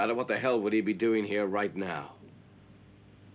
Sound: none

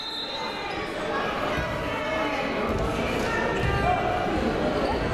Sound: crowd talking

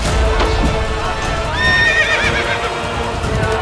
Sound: horse neighs

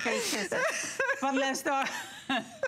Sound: laughter

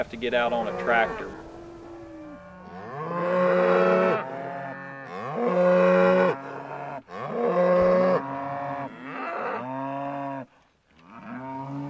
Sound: cows mooing

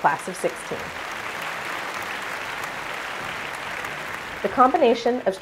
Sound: applause

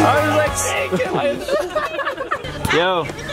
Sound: laughs

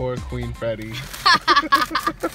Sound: laughing

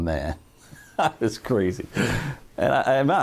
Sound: laughs

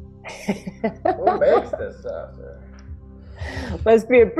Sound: client laughing

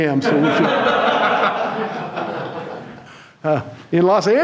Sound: audience laughing

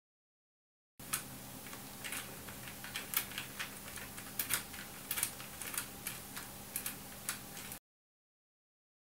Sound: sound of keystrokes on the keyboard

